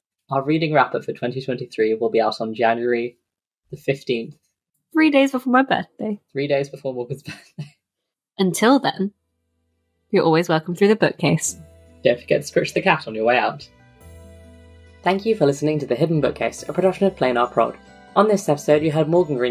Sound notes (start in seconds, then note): 6.2 lauging; 13.8 theme music fades in